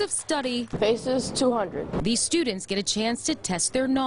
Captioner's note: applause